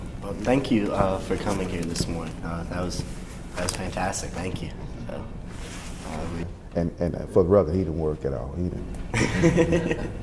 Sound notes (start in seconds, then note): 9.1 laughs